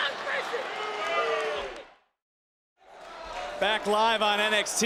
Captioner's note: crowd booing